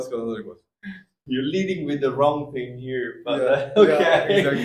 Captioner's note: laugh